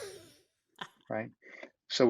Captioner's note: laughs